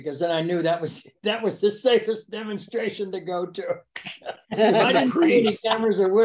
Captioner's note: laughs